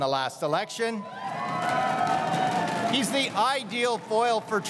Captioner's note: crowd cheering and applauding